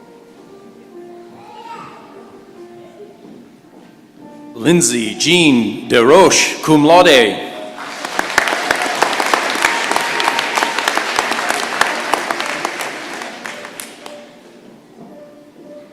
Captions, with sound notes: Lindsey Jean Desroches, cum laude. [applause]